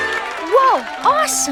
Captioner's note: cheers